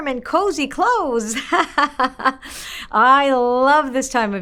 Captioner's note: laughs